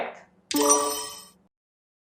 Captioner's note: sonido de timbre correcto